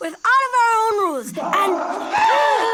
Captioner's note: Wiley bleating with echoes; all gasping